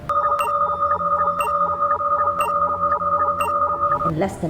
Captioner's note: machine beeping